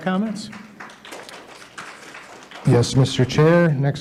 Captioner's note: attendees applauding